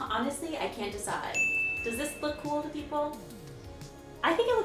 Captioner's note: ding